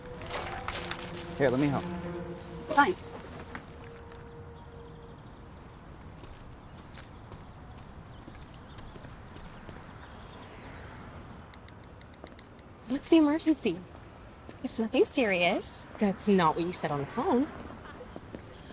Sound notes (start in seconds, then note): 0.1 playful music; 8.5 birds chirping